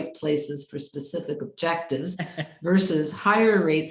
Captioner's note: chuckles